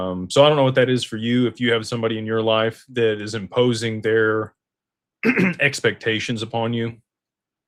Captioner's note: clears throat